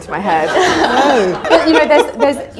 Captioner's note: audience laughter